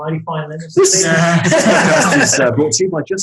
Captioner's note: group laughing